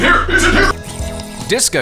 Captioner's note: slurp